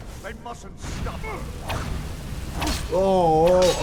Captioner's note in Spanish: El devoto gruñe, grita